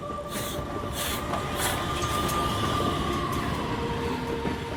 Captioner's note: train chuffing